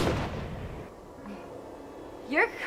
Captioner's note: gunshots